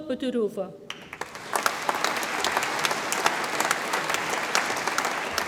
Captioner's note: audience applauds